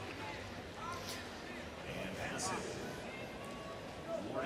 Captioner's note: crowd cheering